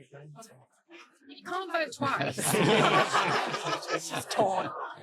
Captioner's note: audience laughing